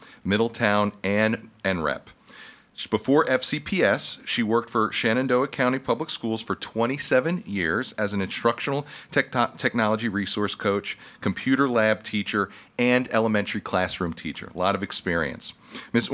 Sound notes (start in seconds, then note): none